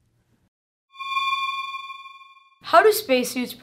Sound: eerie space sound

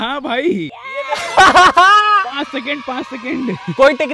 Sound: hahahaaa

